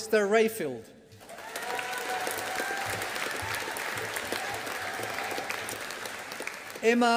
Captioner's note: audience applauding